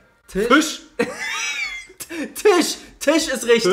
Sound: laughs

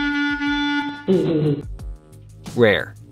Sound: odd chuckle

